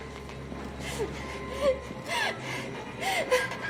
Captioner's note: crying